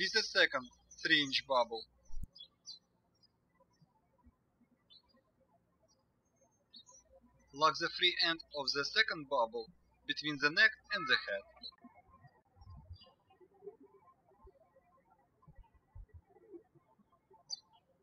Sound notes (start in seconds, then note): 3.8 birds chirping; 12.7 birds chirping